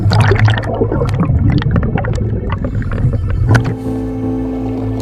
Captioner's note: water gurgling